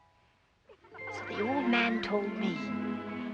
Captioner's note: children Laughing